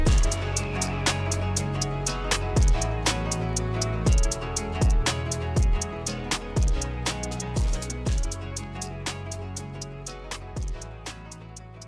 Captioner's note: engine Rumbling